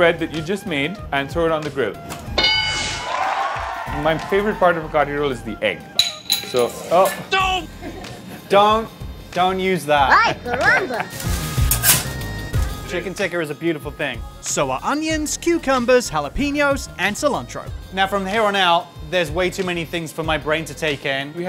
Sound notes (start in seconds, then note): 2.3 bell dings; 6.0 spoon clinks; 7.5 panicked voice; 10.1 cartoon Voice